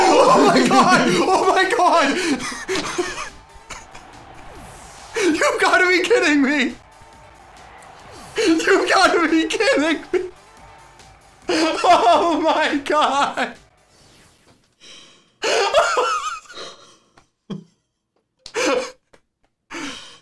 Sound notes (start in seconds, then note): 2.2 chuckles; 9.1 laughs; 11.4 laughs; 15.4 laughing